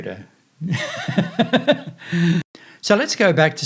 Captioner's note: laughs